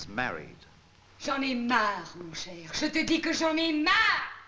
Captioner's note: woman shouting in french